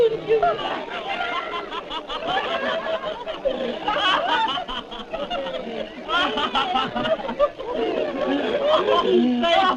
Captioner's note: laughter